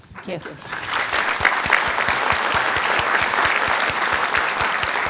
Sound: audience applauding

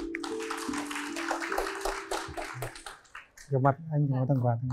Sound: clap

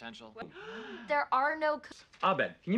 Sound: gasps

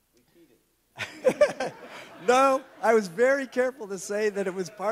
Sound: laughs

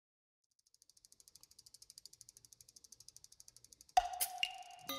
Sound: spokes clicking; gentle whimsical music

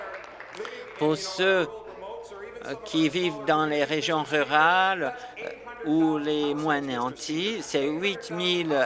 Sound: applause

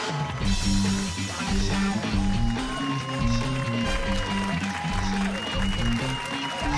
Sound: cheers and applause

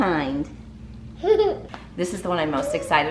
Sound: laughs

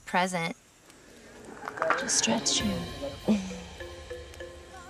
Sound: exhales deeply

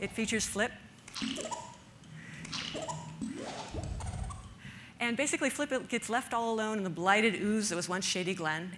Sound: sound effects playing

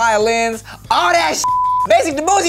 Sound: beep

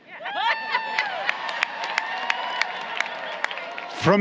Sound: laughter, Applause

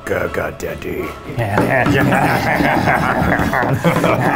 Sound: maniacal laughter

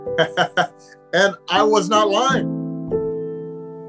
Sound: chuckles

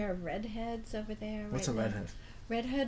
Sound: voiceover

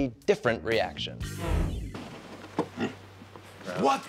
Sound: pig grunts

